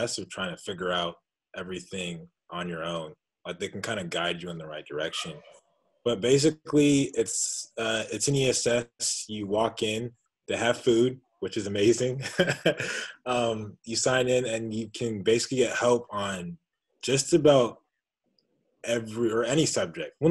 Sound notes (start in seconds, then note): 12.2 laughing